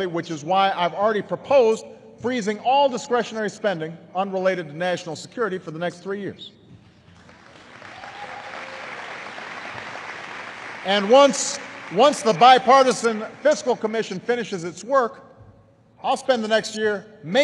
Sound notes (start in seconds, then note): 10.1 applause